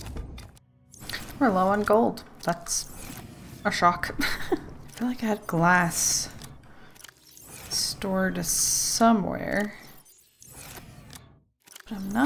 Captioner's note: laughs